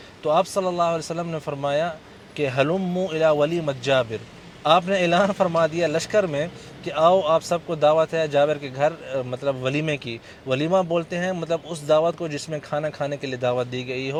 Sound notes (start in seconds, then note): 2.4 Arabic